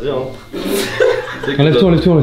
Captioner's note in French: rire